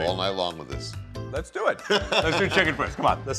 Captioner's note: laughs